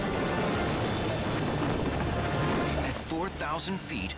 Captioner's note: air swooshes